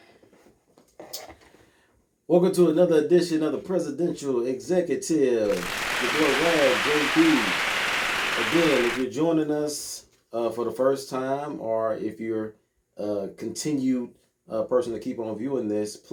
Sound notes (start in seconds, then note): 5.4 applauding